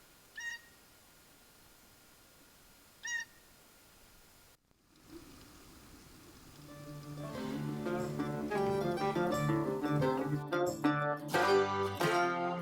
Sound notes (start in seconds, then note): 0.3 bird chirping; 7.2 dramatic music